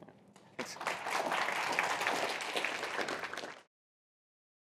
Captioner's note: applause